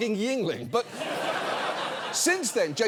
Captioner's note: audience laughs